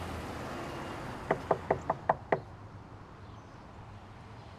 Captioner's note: traffic humming; knocking on door